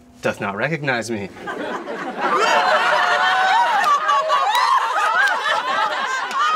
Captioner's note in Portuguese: Risos histéricos